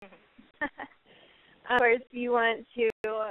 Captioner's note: laughs